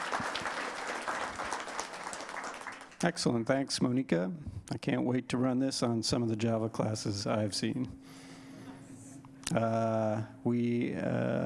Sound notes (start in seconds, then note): 3.8 applause